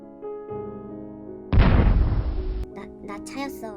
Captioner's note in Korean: 펑 터지는 소리